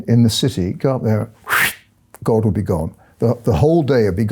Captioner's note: imitates whooshing